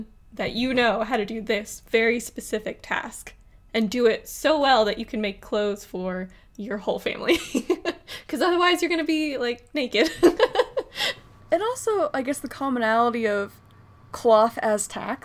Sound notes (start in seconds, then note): 10.0 laughs